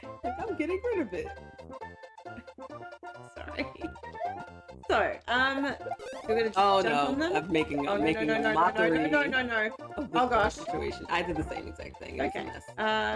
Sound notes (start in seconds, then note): 3.5 both laugh; 6.7 both exclaim